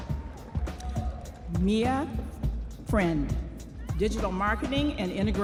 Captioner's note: audience applauding and cheering